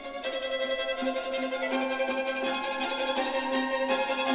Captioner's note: none